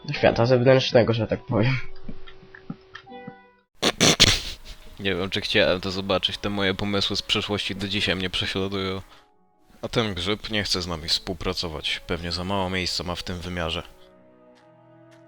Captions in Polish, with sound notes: "...do świata zewnętrznego, że tak powiem" *śmiech* Nie wiem czy chciałem to zobaczyć te moje pomysły z przeszłości do dzisiaj mnie prześladują A ten grzyb nie chce z nami współpracować pewnie za mało ma miejsca w tym wymiarze